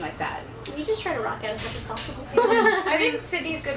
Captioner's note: laughs